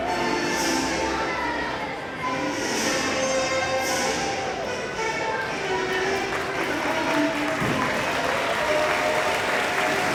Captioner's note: applause